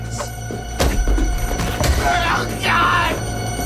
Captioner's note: chop thuds